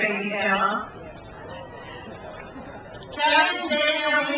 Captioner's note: crowd cheers